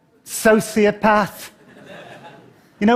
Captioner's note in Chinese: 笑聲